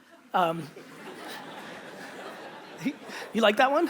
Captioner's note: audience laughter